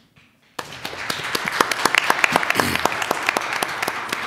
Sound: applause

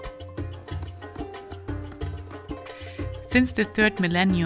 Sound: knife chopping

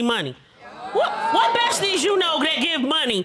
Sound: audience exclaiming

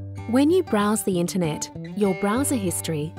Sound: voiceover

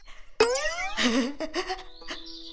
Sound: laughs

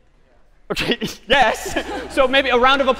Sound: laughs

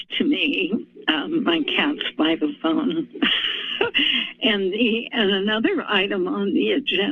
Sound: laughs

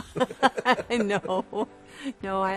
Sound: both laughing

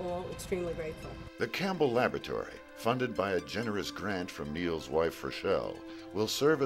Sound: voiceover

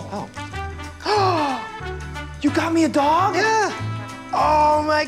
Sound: gasps

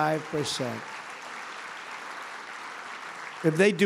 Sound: applause

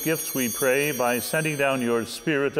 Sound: bell ringing

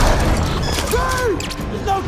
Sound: gunfire

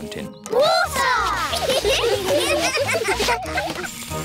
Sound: laughter

